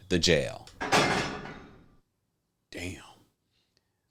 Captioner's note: metal noise